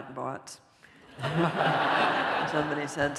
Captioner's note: laughter